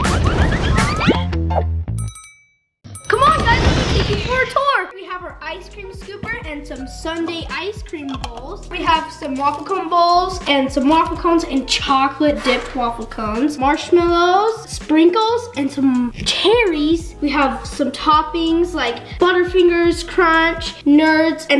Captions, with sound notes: (bell rings) Come on guys, let's take you for a tour. We have our ice cream scooper, and some sundae ice cream bowls, we have some waffle cone bowls, and some waffle cones, and chocolate-dipped waffle cones, marshmallows, sprinkles, and some cherries. We have some toppings like Butterfingers, Crunch, Nerds,